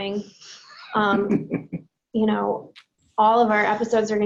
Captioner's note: laughs